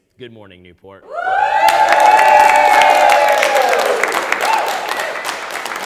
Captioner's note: audience applauds, cheers